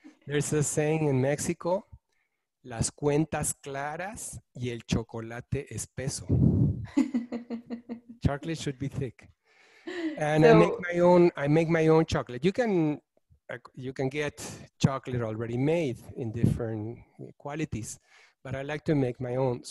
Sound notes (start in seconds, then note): 2.9 speaking in foreign language; 6.9 giggling